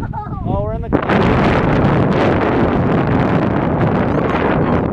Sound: wind roars in mic

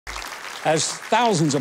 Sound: audience applauding

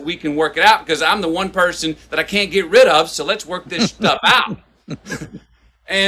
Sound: Sadhguru laughs

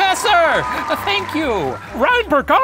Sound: applause

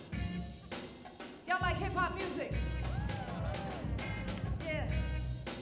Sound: audience cheering

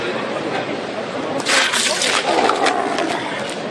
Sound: can crunching

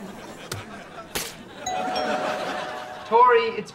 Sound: doorbell rings

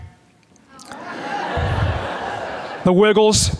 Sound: audience laughs

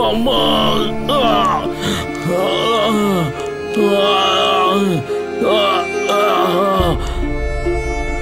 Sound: groans

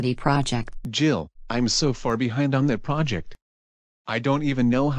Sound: tired

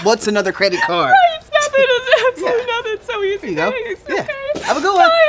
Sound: crying

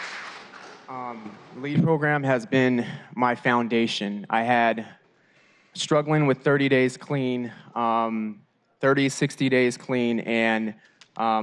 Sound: applause

